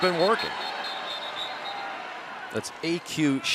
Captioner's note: whistle